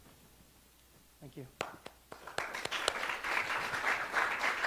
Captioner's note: audience clapping